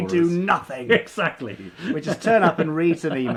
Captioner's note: laughing